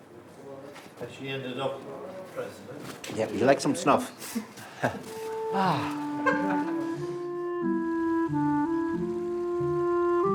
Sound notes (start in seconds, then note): 2.1 voiceover; 6.7 peaceful clarinet music